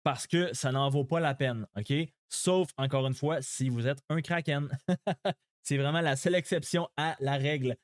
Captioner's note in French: rires